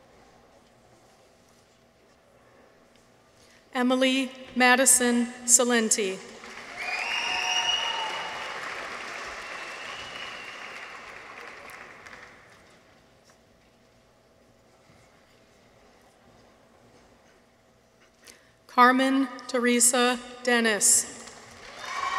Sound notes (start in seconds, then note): 6.4 audience applauds; 6.5 people whistle; 21.5 audience applauds; 21.6 people cheer